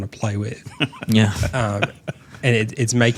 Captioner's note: laughing